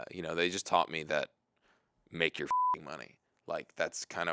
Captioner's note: beep